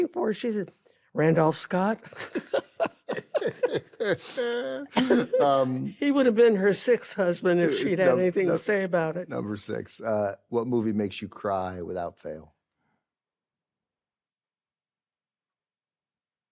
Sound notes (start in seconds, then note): 2.1 ben laughs; 2.1 laughs